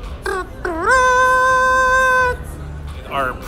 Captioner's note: makes a trumpet sound